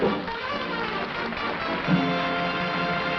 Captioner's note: applause